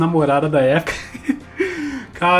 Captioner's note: nervous chuckles